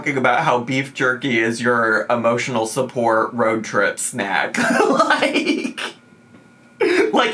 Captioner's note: laughs